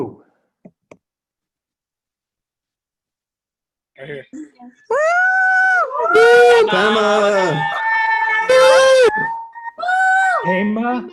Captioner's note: cheering